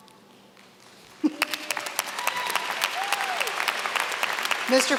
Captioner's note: applause